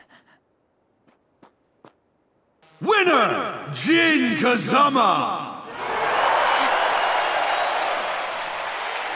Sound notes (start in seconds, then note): 5.5 Xiaoyu sighs; 5.5 crowd cheers